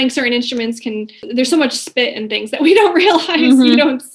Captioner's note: laughing